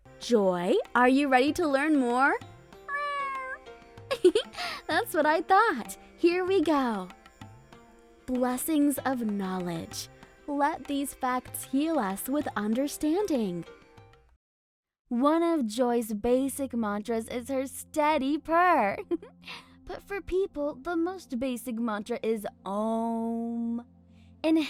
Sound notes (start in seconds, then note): 2.8 Joy meows; 4.1 giggles; 19.0 giggles